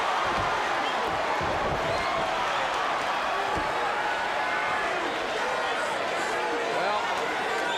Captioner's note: crowd cheering